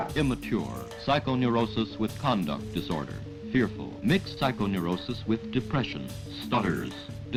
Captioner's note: man speaks